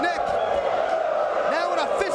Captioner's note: spectators exclaiming